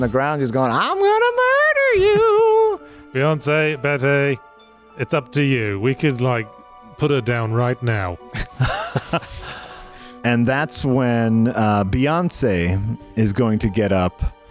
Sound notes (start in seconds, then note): 8.3 laughing